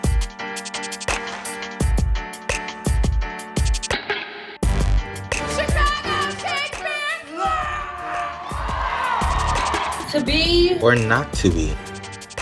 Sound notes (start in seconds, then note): 8.5 audience shouting